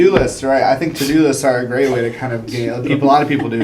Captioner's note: laugh